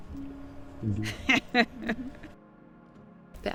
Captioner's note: laughs